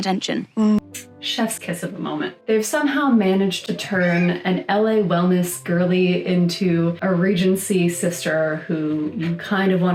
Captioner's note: kiss noise